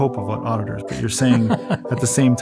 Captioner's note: laughs